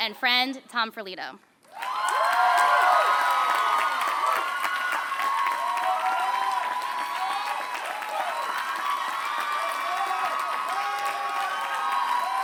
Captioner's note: applause